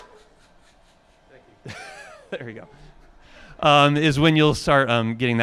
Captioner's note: laughing